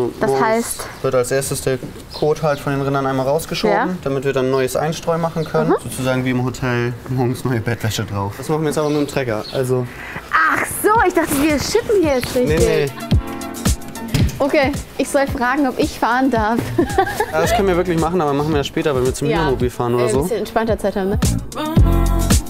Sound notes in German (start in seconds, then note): 13.4 Dynamische Musik; 16.5 Lachen